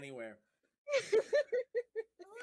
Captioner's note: laughing